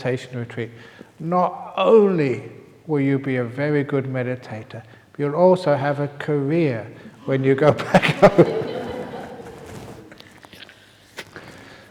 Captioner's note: whisper ends; laughter